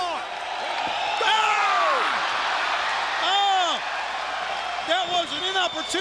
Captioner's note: audience cheers